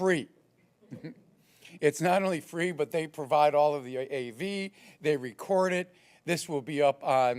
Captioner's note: laugh